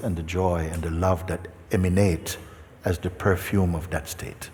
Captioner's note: none